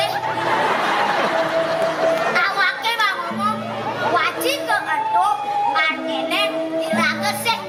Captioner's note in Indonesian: Tepuk tangan